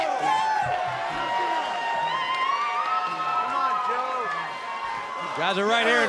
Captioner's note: cheers and applause